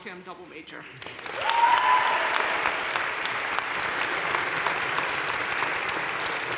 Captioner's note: audience cheering and applauding